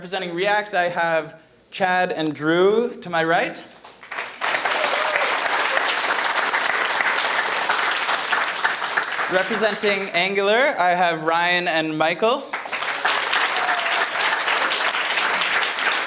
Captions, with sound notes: Representing React I have Chad and Drew, to my right. (audience clapping) Representing Angular, I have Ryan and Michael. (audience clapping)